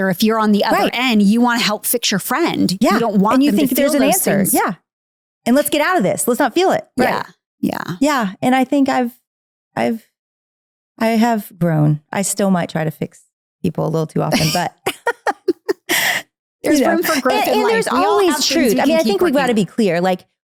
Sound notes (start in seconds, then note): 14.3 laughs